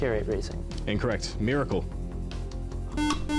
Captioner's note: beeping